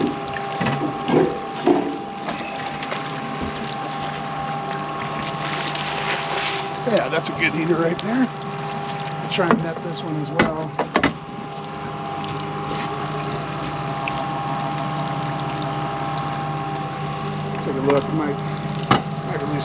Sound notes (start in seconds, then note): 0.1 clattering; 3.1 fish splashing; 12.9 boat engine idling